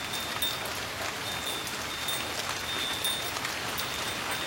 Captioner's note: patterling rain, tinkling wind chimes